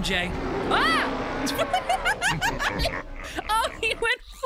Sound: Eddie roars; screams, laughs

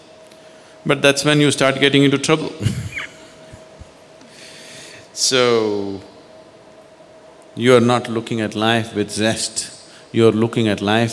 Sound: laughs

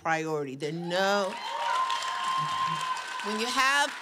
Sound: applause

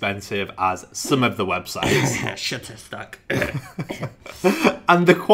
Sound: clears throat; laughing

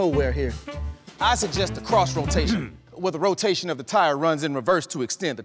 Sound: engineer coughs

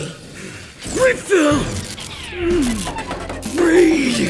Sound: gasping

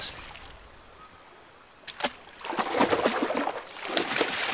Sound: water splashing

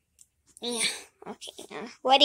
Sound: Teddy Grunting

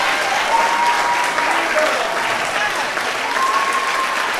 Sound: audience cheering

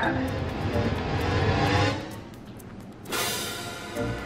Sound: dramatic whirring sounds

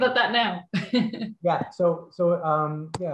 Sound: laughs

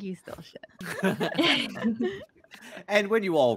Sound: multiple chuckling

